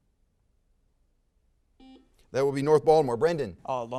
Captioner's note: buzzer sounds